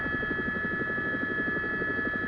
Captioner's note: helicopter